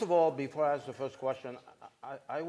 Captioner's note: laughter